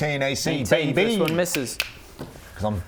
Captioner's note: snap-snap-snap